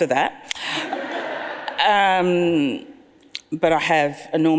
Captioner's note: audience laughs